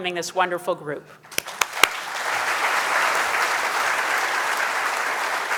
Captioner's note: audience applauding